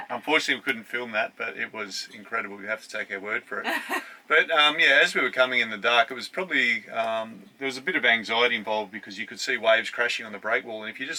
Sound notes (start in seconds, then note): 3.6 laughs